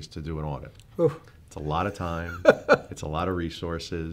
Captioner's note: laughing